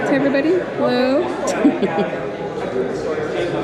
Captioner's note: laughs